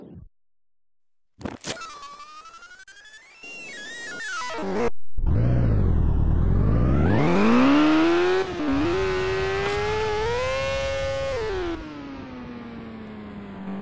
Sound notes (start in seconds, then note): 4.5 motorcycle engine revving